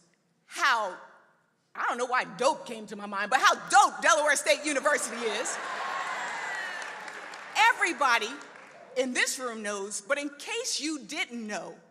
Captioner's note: applause